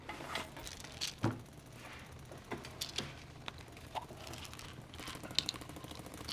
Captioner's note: pills rattling over rattling gunfire from video game